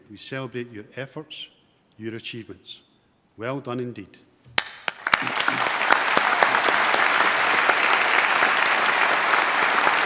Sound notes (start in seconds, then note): 4.6 applause